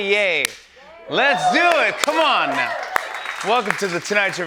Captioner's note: cheers